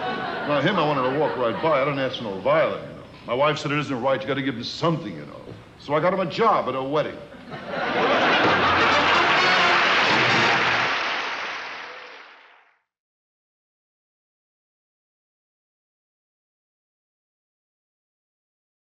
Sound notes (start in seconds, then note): 7.4 audience laughing; 8.6 upbeat music